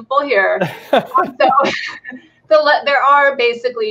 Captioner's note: both laughing